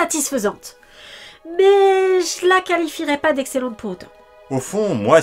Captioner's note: sigh